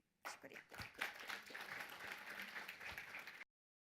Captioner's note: applause